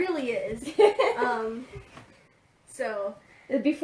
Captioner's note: laughs